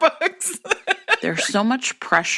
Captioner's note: laughter